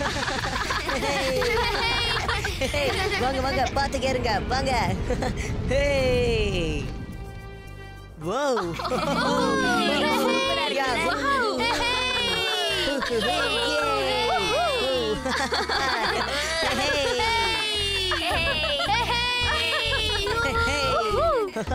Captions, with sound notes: [ Laughing Continues ] Careful everyone [ Laughing ]